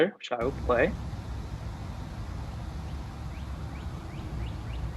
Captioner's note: ambient noise, bird song